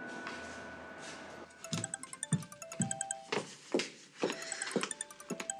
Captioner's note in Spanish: Suena el celular